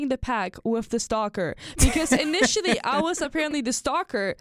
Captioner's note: chuckles